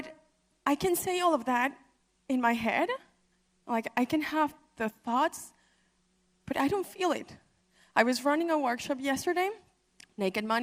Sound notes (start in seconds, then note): none